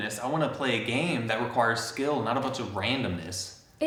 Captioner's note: none